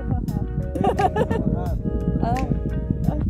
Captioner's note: laughing